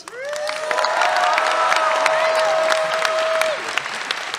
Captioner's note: cheers, applause